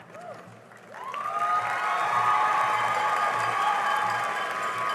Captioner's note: cheering and applause